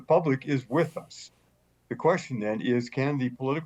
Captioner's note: chuckles